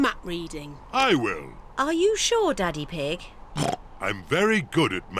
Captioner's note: oinks